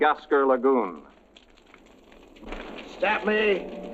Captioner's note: fire cracking